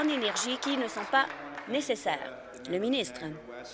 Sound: applause

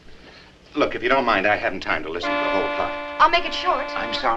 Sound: car honks

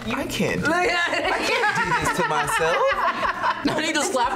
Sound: laughs

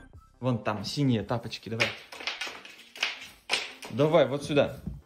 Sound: man speaks foreign language

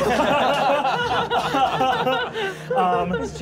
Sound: laughing

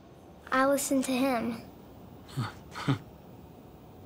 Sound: chuckle

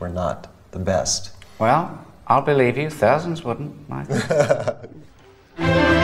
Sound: laughs

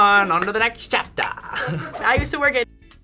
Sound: laughs

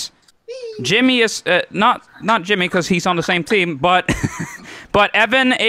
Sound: chuckles

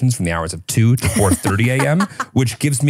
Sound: laughs

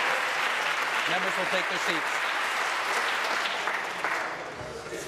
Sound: applause

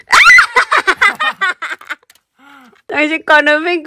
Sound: is laughing

